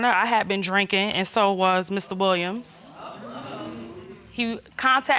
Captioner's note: audience murmuring